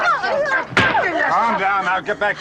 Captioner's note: smack!